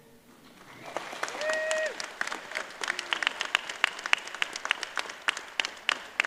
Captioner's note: applause